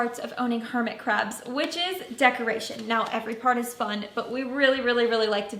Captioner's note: light clapping noise